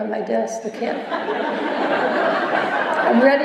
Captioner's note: laughter